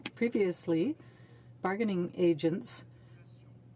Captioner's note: speaking French